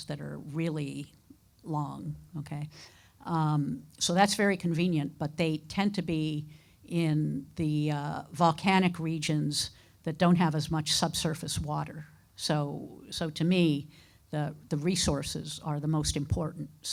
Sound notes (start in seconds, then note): none